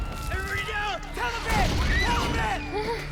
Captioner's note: screaming